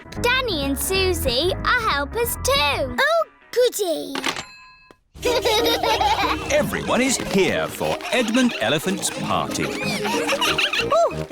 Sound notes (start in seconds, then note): 5.2 children laughing